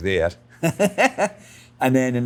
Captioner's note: Alan laughs